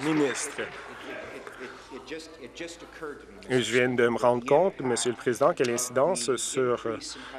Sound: applause

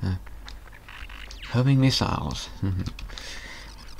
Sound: snigger

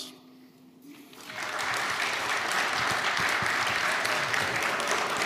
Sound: audience applauds

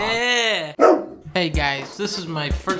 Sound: dog woof

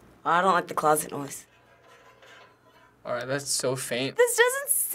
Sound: quiet metallic sound

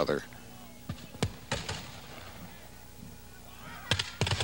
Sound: gun firing

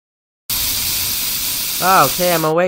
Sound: spraying Sound

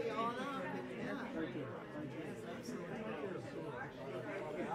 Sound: crowd chatter

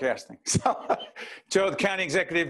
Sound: laughing

